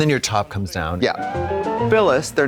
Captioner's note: bright chime